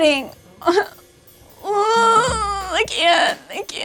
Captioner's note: crying